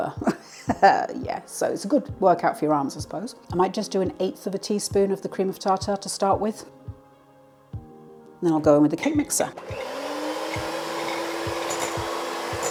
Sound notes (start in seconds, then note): 9.6 electric whisk whirring